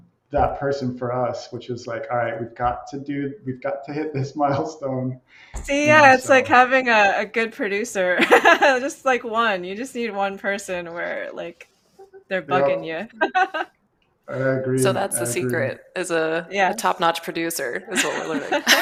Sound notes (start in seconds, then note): 5.6 laughs; 12.0 laughs